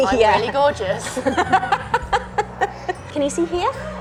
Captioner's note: laughing